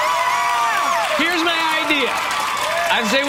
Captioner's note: audience cheers